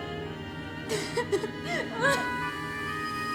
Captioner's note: sobs